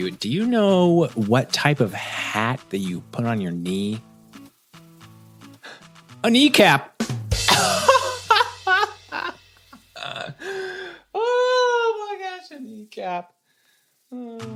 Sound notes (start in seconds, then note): 9.8 laughs